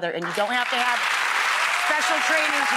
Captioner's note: applauding